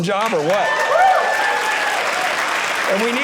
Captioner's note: audience cheering